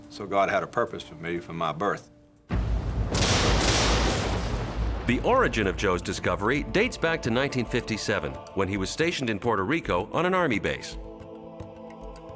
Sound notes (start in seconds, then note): 2.4 suspenseful music; 2.5 thunder rumbling